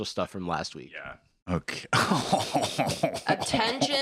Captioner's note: laughing